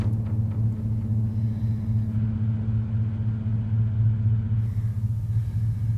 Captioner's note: Ellie breathes uneasily